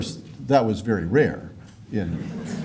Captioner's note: laughter